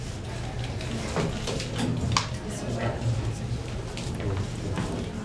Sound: all chattering

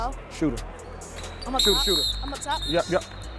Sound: overlapping chattering

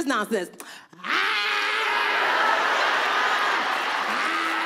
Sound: audience laughing

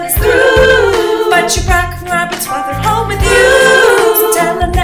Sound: ooh

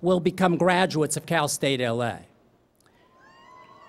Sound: cheering

